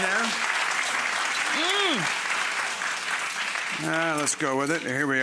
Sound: audience applauding

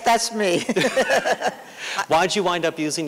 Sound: laughter

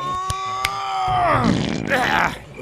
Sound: monster farts

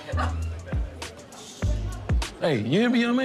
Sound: laughs

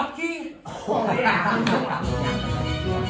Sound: laughter

